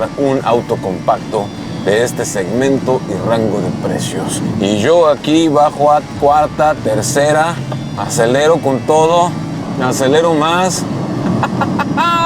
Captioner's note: laugh